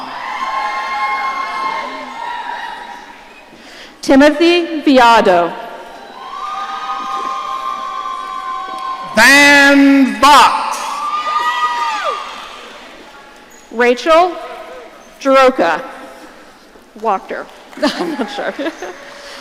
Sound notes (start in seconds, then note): 0.0 audience cheering; 6.0 audience cheering; 10.7 audience cheering; 17.8 laughs